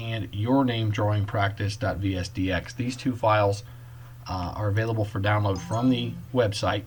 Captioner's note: ding